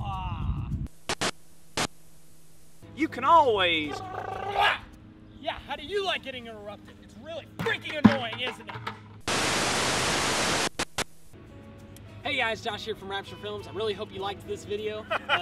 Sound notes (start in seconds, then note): 0.9 static; 9.2 static